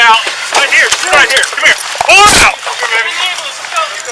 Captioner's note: mingled voices